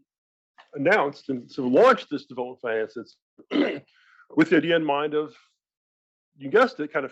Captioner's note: cough